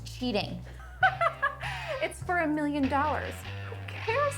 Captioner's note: laughs